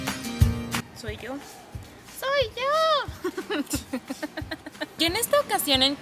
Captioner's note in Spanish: Risas